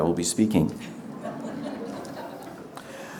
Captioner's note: audience laughter